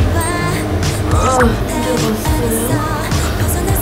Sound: making all tired noises

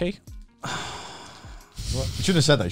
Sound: sighs

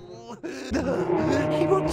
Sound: bear growling

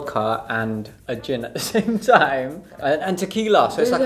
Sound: laughs

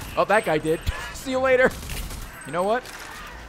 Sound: laughs

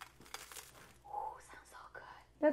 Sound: crunching

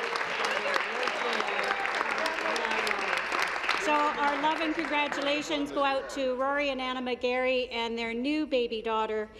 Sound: applause

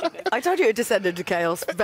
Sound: laughter

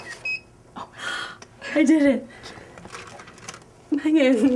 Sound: machine clicking and beeping; gasps

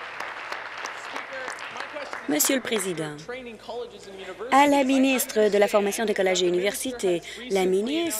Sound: applause

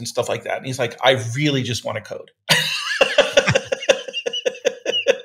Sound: laughing

